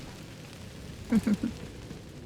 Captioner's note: giggles